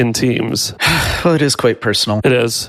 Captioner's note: sighs